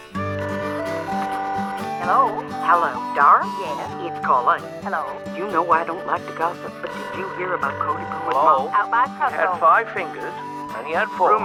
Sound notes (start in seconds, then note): 0.1 lively music; 0.1 phone ringing; 8.2 phone ringing